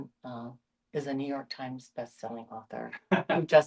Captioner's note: light laughter